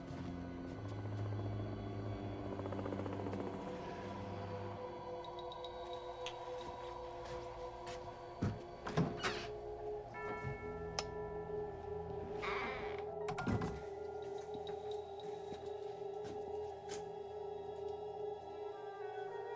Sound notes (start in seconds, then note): 0.0 helicopter whirring outside; 8.8 door creaks; 13.7 door thuds